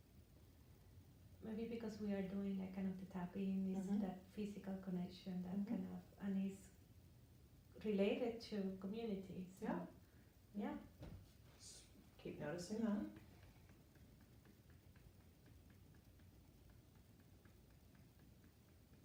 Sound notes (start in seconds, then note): 12.6 gentle tapping